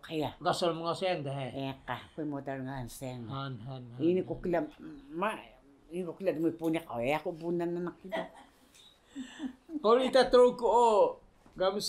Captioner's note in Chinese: 嘻…